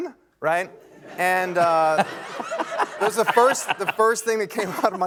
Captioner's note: laughter